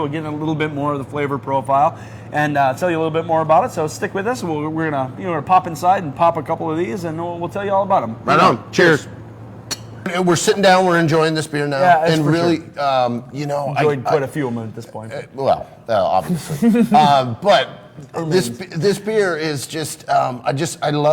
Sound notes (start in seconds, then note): 9.7 glasses clink; 16.1 giggles